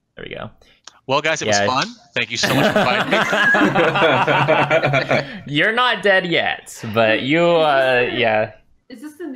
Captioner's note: laughter